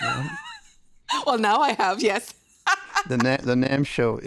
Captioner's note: laughing